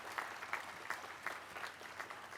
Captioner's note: applause